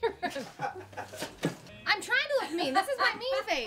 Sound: laughter

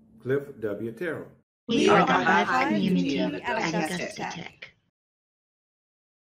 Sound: many voices

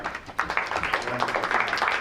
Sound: crowd applauds

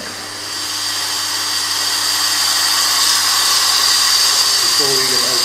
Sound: hissing sound

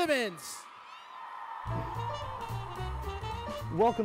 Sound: cheering

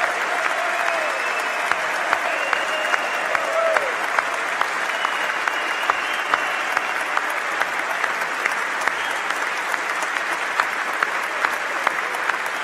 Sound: applause; cheers

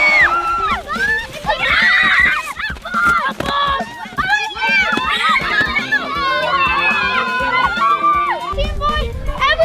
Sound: boys cheering

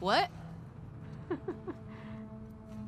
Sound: chuckles

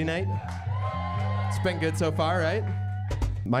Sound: cheering

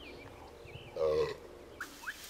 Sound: burps while pointing at a horse; whistles, Burps again and then continues whistling

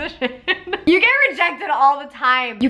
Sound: laughing

